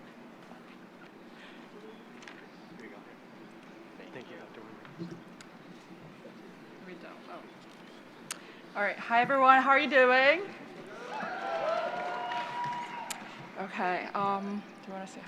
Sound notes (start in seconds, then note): 10.9 applause